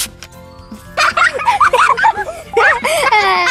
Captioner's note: laughing